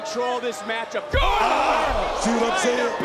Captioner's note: commentators exclaim